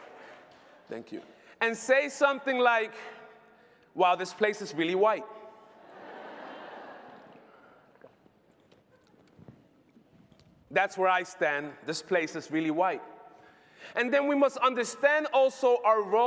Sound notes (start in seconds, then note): 9.0 laughter